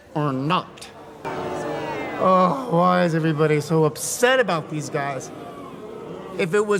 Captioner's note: boo